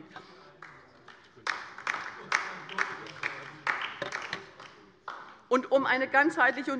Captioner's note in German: Beifall bei der LINKEN